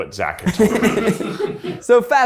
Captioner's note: people laugh